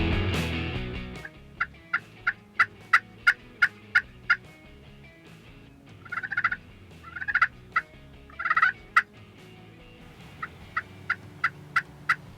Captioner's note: turkey call noise